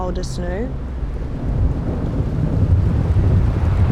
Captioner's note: rumbling approches